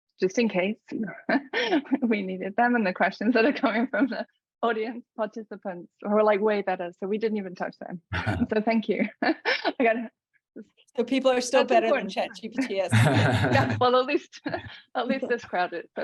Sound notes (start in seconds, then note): 8.1 laughs; 12.2 laughs